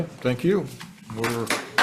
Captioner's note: audience applauds